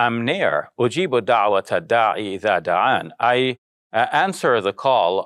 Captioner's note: speaking in foreign language